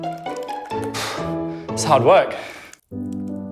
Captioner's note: huffs; slow classical music